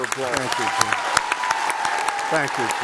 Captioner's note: applause